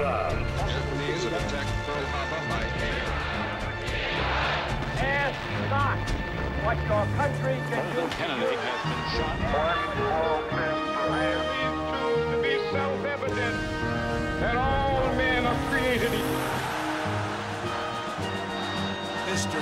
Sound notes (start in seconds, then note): 2.6 crowd chanting in German; 16.1 cheering